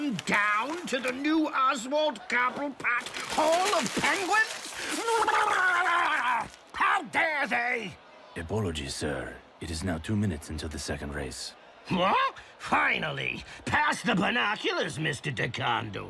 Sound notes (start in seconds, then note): 2.7 aggravated warbling, paper crumpling